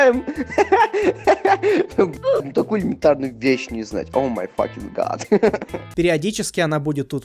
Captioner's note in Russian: смешной смех